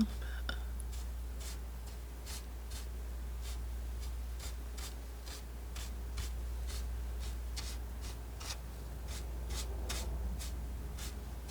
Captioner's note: scratching